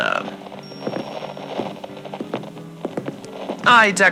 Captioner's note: walking fx, wind chimes blowing fx